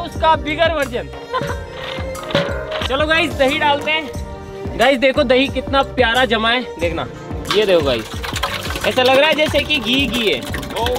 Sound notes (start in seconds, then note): 1.4 churning